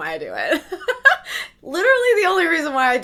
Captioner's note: laughs